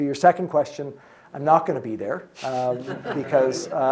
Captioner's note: audience laughing